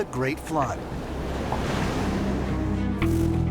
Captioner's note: water rushing